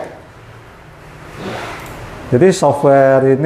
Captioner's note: clicking sound